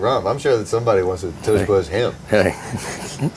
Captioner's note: laughing